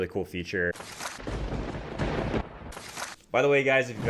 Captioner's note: papers shuffle; thunder booms